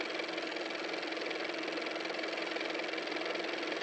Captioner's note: car motor